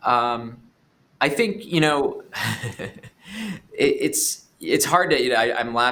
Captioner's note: laughing